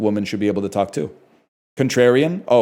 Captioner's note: none